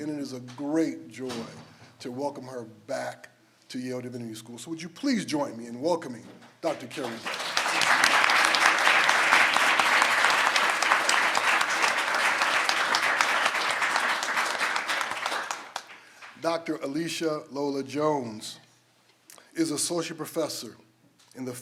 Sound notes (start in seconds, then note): 7.6 everyone applauds